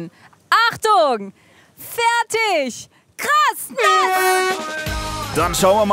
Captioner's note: Startsignal